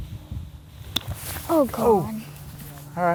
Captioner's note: groans